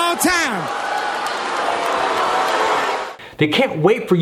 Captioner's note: audience applauding